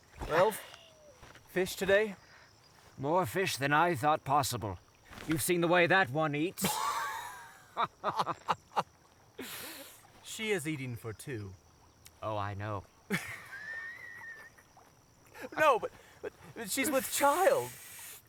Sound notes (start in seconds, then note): 6.6 laughing; 15.2 laughing